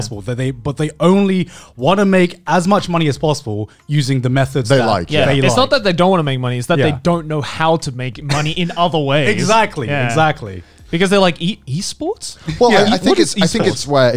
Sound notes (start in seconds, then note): 8.2 laughing